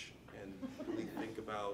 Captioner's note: audience laughing